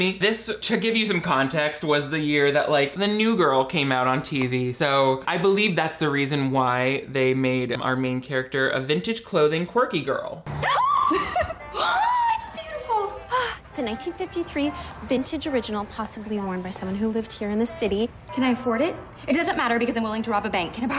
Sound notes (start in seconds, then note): 10.8 gasps